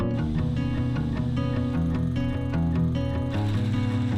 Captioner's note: machine whirring